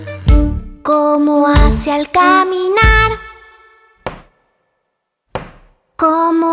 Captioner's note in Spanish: Sonido de pasos